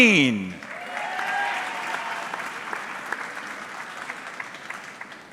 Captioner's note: audience clapping